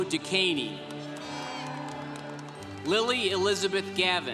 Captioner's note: congregation cheering